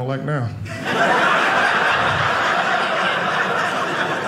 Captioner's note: audience laughing